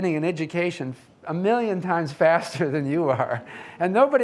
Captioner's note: laughs